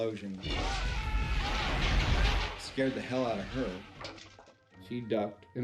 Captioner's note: explosion